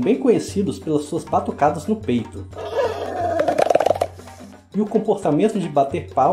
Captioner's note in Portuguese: Escuta-se as batidas no peito do gorila